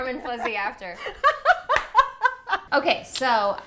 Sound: laughing

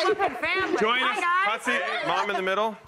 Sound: guests laugh

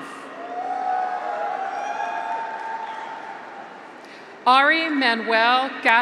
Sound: graduates cheer; audience applauds

